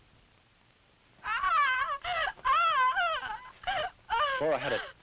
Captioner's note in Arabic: فلورا تصرخ